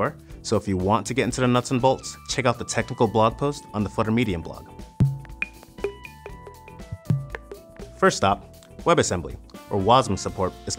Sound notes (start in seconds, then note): 4.7 beeping